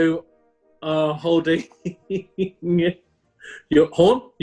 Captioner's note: giggling